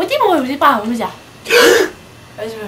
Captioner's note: gasped